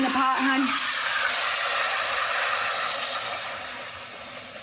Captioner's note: pan sizzling